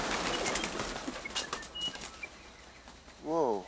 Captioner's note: gun bangs; birds flapping